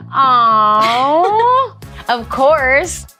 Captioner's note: Antonia laughs